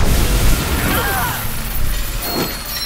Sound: Jim and Silver grunt

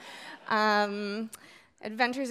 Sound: audience laughing

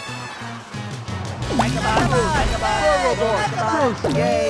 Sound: cheering

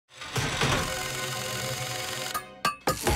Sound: tools whirring and tapping

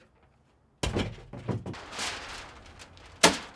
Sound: wood thuds to ground; hammer pounds nails

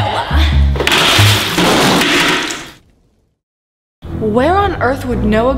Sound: water splashes

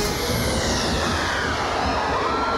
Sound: screaming

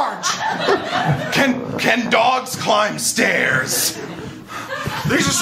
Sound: dogs barking & growling

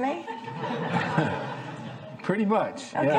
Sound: laughing

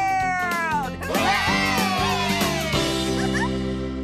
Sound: laughter & Cheers

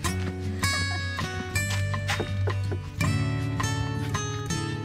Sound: laughs

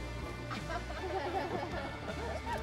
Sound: laughter

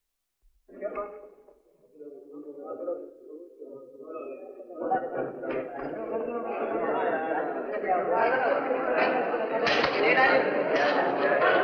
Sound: indistinct chatter

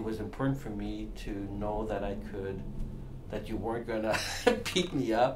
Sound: laughs

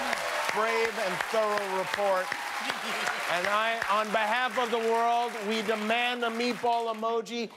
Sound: cheers and applause

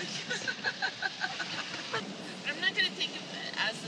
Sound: laughter

